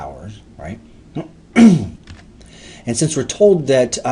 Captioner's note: clears throat